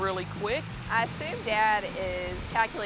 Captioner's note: normal voice